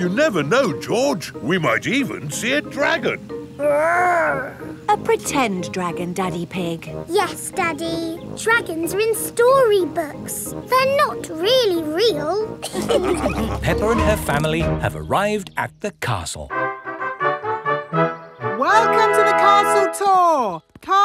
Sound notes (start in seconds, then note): 12.6 all laughing; 16.4 fanfare playing